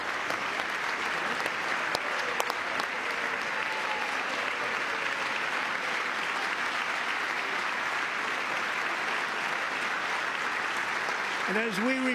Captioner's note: applause